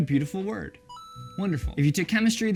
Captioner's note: ding